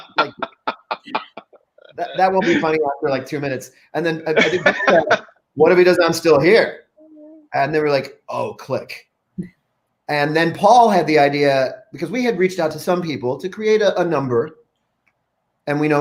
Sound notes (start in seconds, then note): 0.0 laughs; 4.2 laughs